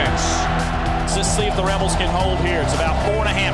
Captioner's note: voiceover